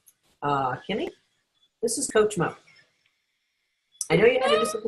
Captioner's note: laughs